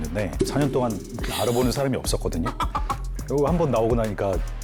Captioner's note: disappointed sound effect